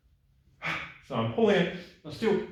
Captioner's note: gasps